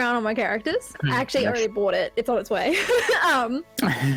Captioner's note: laughs